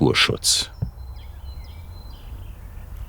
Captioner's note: birdsong